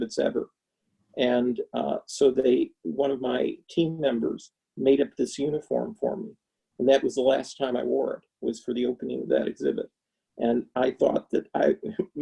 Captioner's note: chuckles